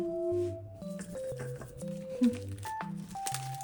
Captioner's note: hehehe